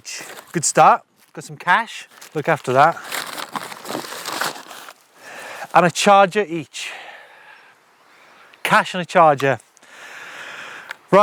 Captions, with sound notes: Good start. Got some cash. Look after that. (paper crinkles) And a charger each. Cash and a charger.